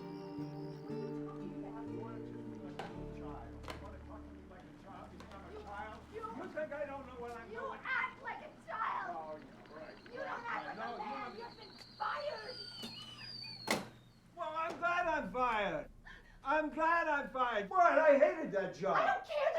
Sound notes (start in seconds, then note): 9.5 screaming; 13.5 whistles